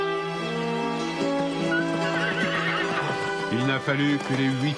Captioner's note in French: Hennissements